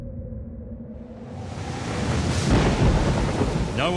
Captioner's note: wind howling; rain and thunder